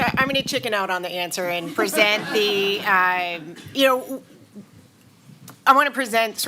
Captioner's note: laughter